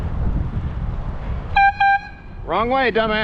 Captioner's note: airhorn x2